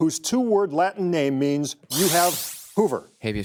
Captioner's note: digital sound effect